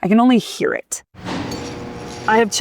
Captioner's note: curtain whirring